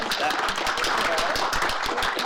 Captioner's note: applause